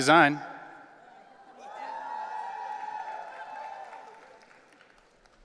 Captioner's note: audience cheering